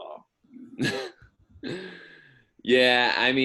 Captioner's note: laughs